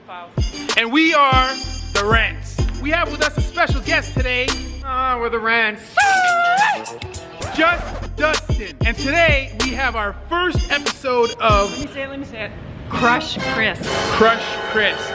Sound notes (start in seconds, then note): 4.1 mockingly